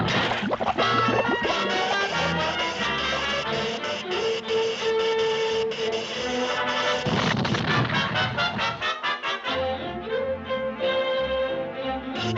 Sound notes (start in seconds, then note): 0.0 water splashing; 2.0 electricity zaps; 7.1 explosion booms